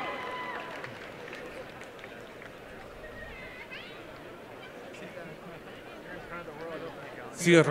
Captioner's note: applause